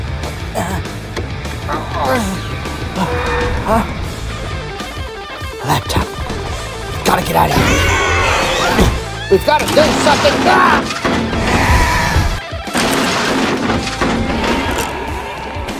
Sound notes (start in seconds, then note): 1.6 struggles; 11.1 crashing sounds